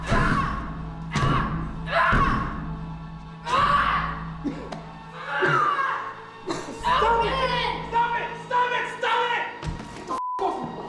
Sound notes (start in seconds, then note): 2.3 yelling